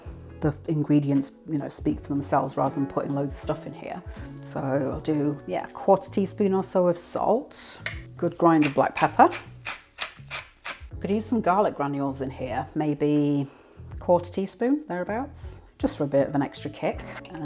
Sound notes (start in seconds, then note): 10.2 peppermill grinding